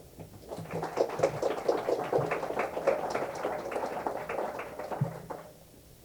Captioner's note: applause